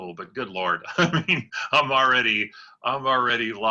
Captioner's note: laughter